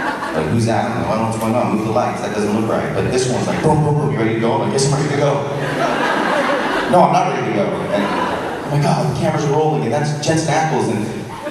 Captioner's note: audience laughs